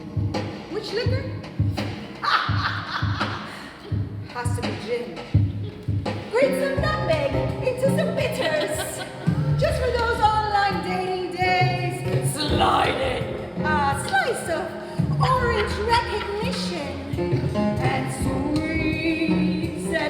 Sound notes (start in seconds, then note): 2.2 maniacal laugh